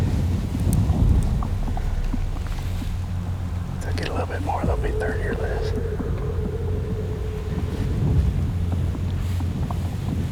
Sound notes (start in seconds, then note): 3.8 whispering